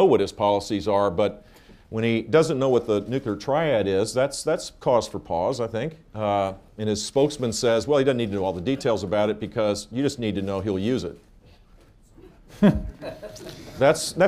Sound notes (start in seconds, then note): 12.5 laughter